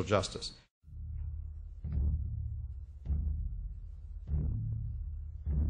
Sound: heartbeat

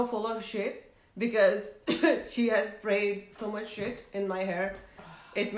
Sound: coughs

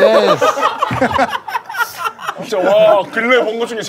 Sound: crowd is very impressed

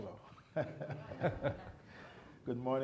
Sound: chuckling; audience laughs

